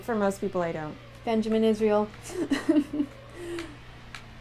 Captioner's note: laughter